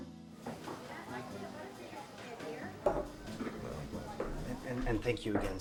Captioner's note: guests chattering